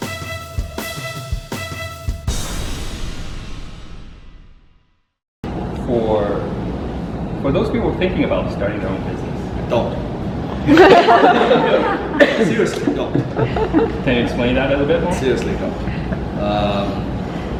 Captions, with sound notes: - For those people who are thinking about starting their own business- - Don't. (crowd laughs) Seriously, don't. - Can you explain that a little bit more? - Seriously, don't.